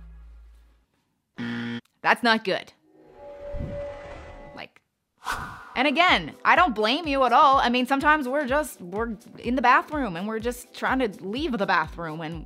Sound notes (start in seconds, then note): 1.4 buzzer buzzing; 3.2 musical chord; 5.4 whooshing